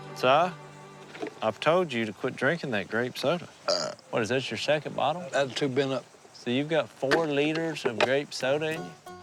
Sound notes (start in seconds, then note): 3.6 burp